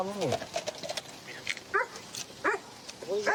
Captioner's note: dog barks